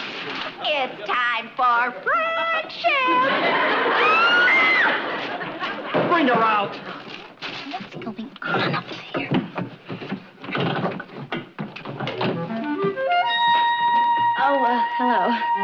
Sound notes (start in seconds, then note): 0.2 singsong; 3.9 screams